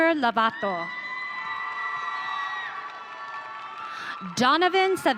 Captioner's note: audience cheering